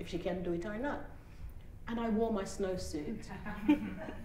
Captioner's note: laughter